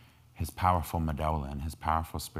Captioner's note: speaking in foreign language